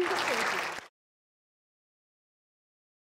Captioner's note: applauding